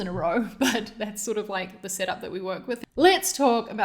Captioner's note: laughs